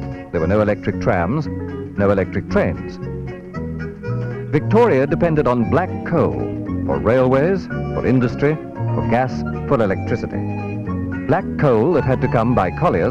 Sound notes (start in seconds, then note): none